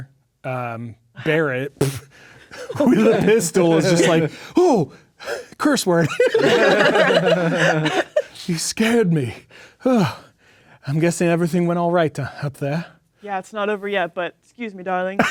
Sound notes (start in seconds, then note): 6.0 players laughing